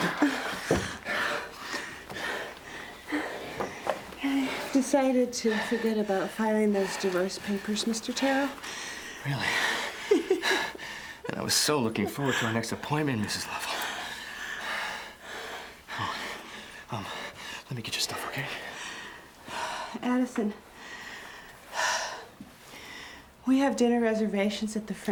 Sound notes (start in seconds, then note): 0.0 Becky groans softly; 0.3 both panting heavily; 3.7 object clatters; 9.9 Becky laughs; 13.6 both panting heavily; 20.6 breathes heavily